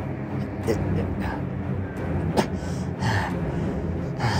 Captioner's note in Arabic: داريوس يلهث